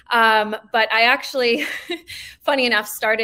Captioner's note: chuckling